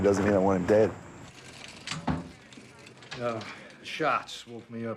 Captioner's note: police radio chatter